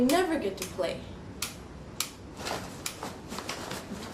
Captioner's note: hair iron clamping